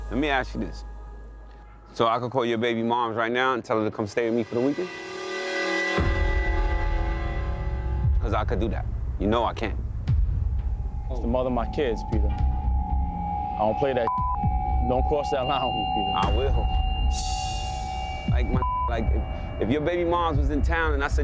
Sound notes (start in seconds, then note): 5.5 suspenseful music; 14.5 beep